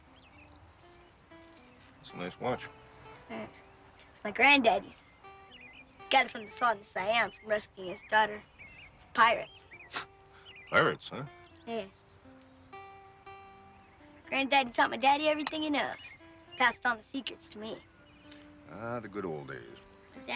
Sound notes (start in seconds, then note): 0.6 gentle music; 10.2 laughs